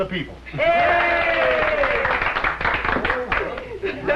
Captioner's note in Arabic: هتافات وتصفيق